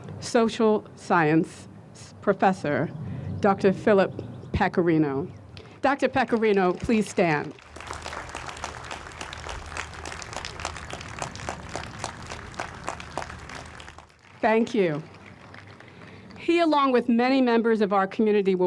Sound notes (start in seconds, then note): 8.2 audience applauds